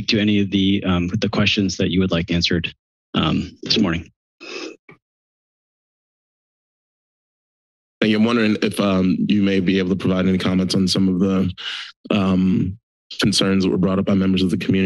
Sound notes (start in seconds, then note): 4.3 silence